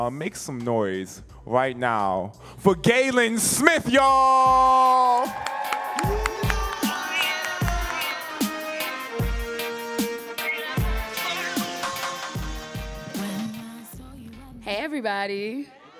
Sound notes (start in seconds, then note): 4.4 audience cheering; 4.9 upbeat music